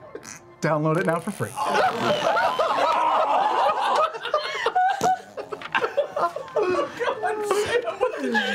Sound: so many fart noises

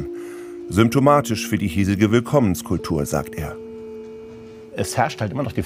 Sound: German

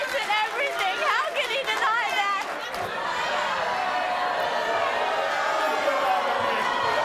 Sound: audience boos

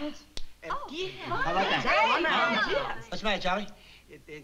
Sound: commotion

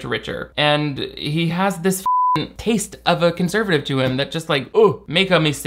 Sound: beep

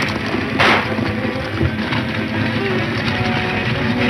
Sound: horses galloping; shot fires; dramatic music

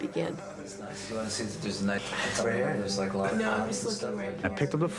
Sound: chatting

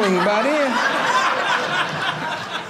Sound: audience laughing

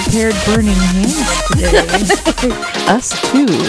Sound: laughing

